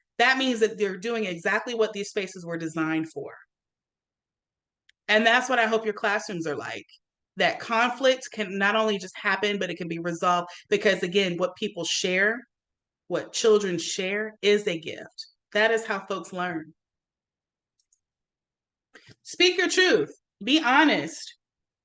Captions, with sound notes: That means that they're doing exactly what these spaces were designed for. And that's what I hope your classrooms are like. That conflicts can, not only just happen, but it can be resolved, because again, what people share, what children share is a gift. That is how folks learn. (mouse clicks) Speak your truth, be honest.